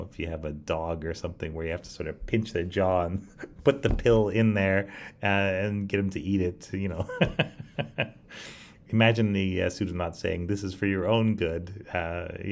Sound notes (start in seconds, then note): 7.0 laughs